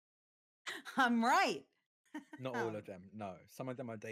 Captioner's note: chuckles